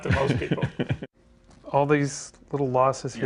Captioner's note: laughs